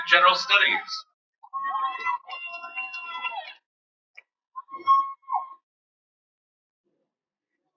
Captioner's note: cheering